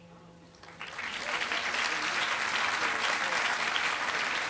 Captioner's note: applause